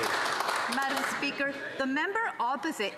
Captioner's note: applause